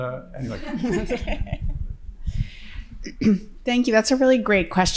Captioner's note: participants laughing